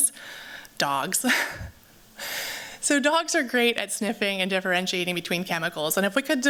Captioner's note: laughs